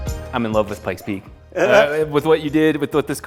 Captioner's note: laughing